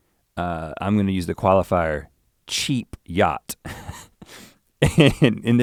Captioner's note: chuckles